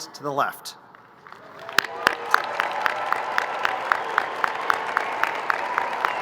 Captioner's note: crowd cheering and applauding